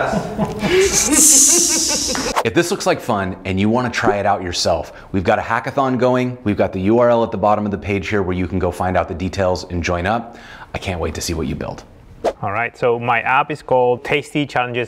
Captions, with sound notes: (laughing) If this looks like fun and you want to try it out yourself, we've got a hackathon going, we've got the URL at the bottom of the page here where you can go find out the details and join up. I can't wait to see what you build. All right, so my app is called Tasty Challenges